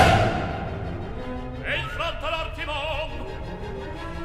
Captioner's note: lightning